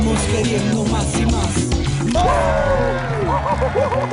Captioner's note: applause